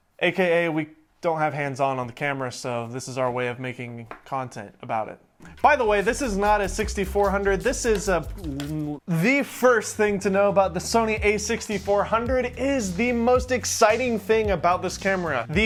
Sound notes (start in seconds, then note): 8.6 groans